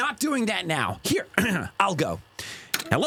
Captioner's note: ahem